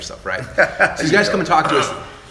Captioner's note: laughter